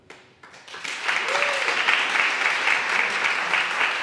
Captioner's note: audience applauds